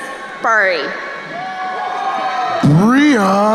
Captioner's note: crowd cheering